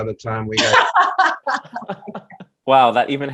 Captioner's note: Michelle laughs